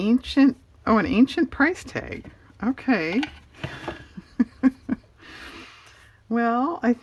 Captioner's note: laughs